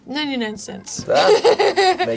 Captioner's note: laughs